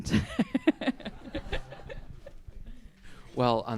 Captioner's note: all laughing